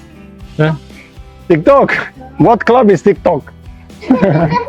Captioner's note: laughs